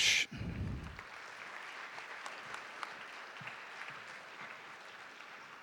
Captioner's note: audience applauding